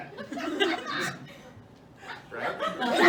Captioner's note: laughter; loud laughter and cheering